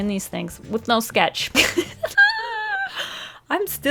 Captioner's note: nervous laugh